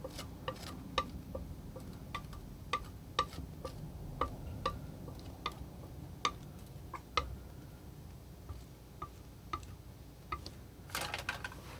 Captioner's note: tapping